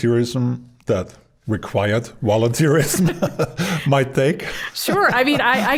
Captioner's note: both laughing